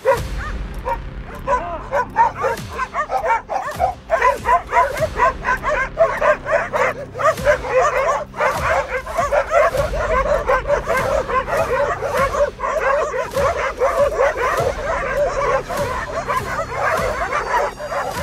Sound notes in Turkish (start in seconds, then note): 2.0 Havlama sesleri ve tansiyon müziği sesi